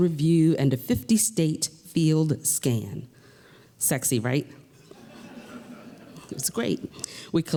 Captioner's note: laughter